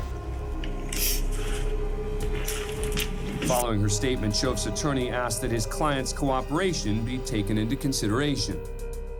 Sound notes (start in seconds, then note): 0.9 sniffles